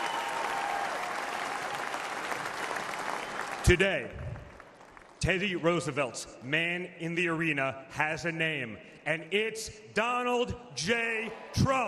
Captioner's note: applause